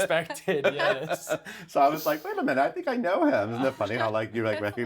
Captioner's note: laughs